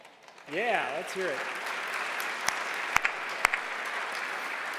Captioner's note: cheers